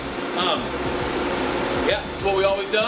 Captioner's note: machines whirring